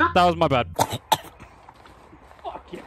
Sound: disgusted coughing

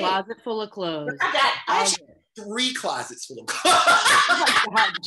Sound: laughs

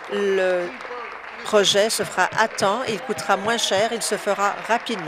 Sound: applause

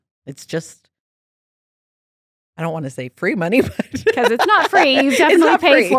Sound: laughs

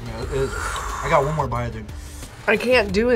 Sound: laughs; exhales

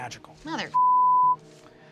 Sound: beep

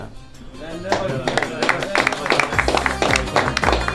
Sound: clapping

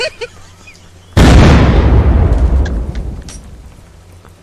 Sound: loud Boom

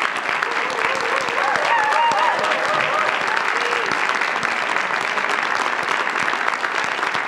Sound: audience cheers; audience applauds

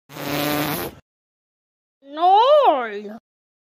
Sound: farting

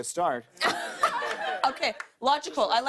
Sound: laughter

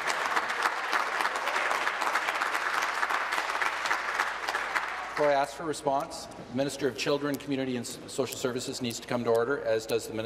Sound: applause

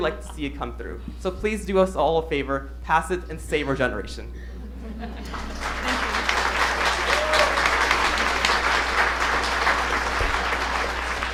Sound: applause

